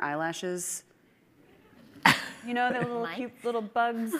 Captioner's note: audience chuckling